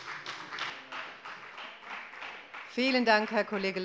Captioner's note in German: Beifall bei der FDP